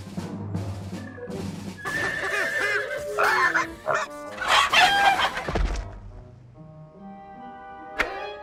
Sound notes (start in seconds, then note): 1.8 bangs, neighs; 1.8 bang, horse neighs